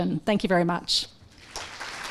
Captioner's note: applause